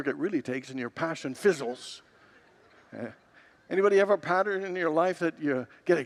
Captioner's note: congregants laugh